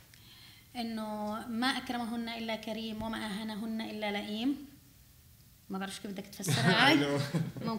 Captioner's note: speaking arabic